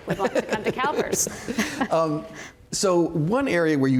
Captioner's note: laughter